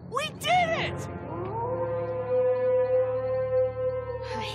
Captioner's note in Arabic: وولف يعوي